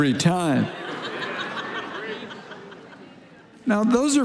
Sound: congregation laughing

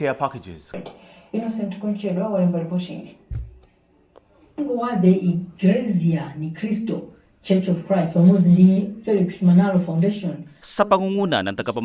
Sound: news playing on TV

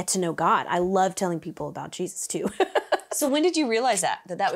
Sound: laughs

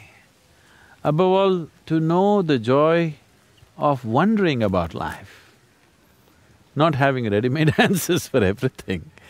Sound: laughs

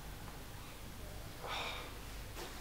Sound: sighs

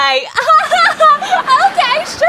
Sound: laughs

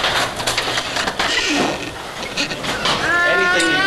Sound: machinery whirring

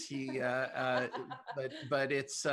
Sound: laughter

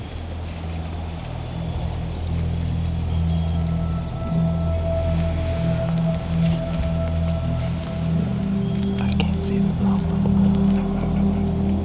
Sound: whispering

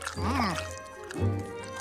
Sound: munching

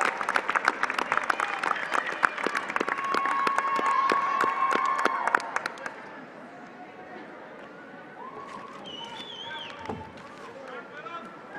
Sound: applause

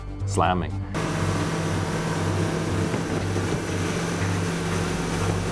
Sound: sound of boat motors

